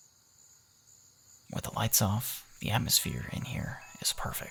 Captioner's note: crickets night time sounds